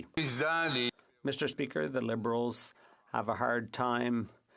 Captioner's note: speaking French